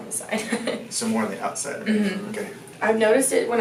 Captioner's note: laughing